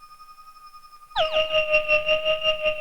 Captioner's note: resonating